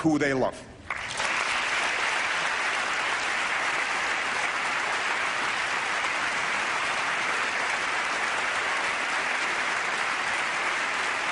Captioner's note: applause